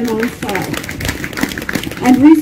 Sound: applasuse

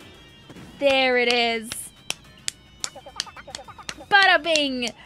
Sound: clapping

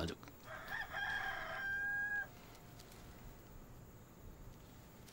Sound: rooster crowing

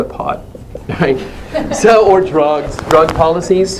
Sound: laugh

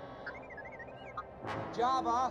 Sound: beeping

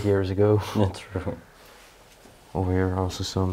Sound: chuckles

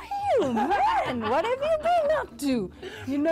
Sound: laughs

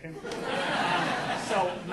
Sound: audience laughing

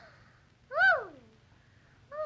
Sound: exhale

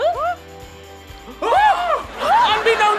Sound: gasps

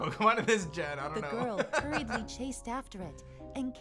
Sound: laughs

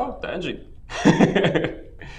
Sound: laughs

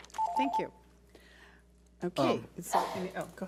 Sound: timer beeps

